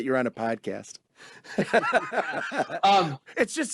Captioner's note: laughing